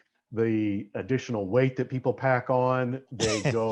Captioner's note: laughing